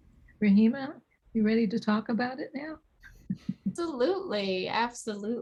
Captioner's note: chuckles